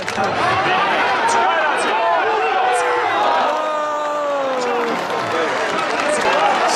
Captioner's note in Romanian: Aplauze